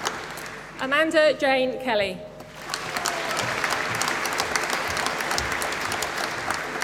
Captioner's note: applause